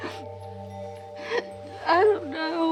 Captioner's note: Nancy sobbing